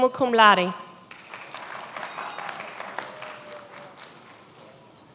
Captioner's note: many applauding